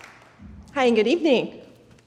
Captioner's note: audience applauds